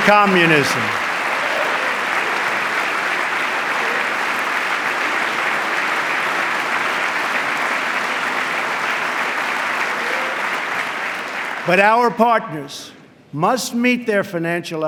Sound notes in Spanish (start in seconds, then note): 3.9 aplauso